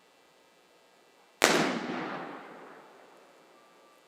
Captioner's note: gunshot